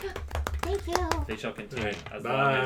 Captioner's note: a pleasant pattering of claps; gasps, then, in a tiny flattered voice